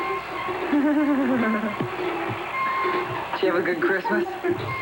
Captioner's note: laughs